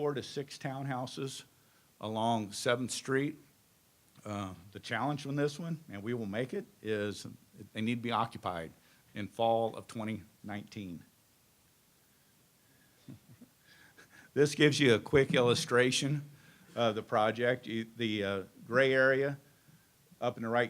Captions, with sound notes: ILLUSTRATION OF THE TOWN HOUSES. WE WILL PUT 4 TO 6 TOWN HOUSES ALONG 7TH STREET. THE CHALLENGE FROM THIS ONE, AND WE WILL MAKE IT, IS THEY NEED TO BE OCCUPIED IN FALL OF 2019. [ CHUCKLING ]. THIS GIVE YOU A QUICK ILLUSTRATION OF THE PROJECT.